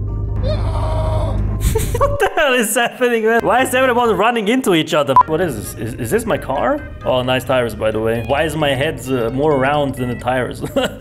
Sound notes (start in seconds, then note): 1.6 chuckles; 10.6 chuckles